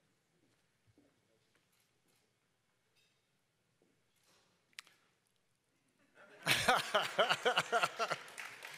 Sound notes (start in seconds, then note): 1.1 laughter; 6.5 applause